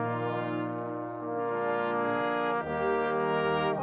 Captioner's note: speaking French